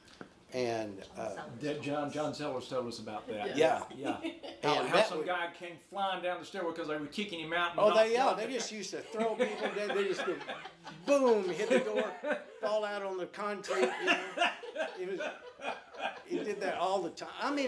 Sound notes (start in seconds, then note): 13.6 all laughing